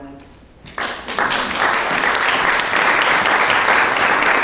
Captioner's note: audience applauding